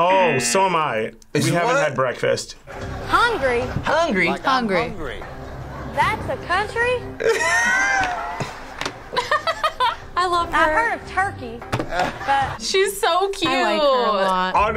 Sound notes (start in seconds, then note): 7.2 laughs